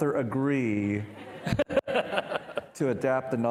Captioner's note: and participants laughing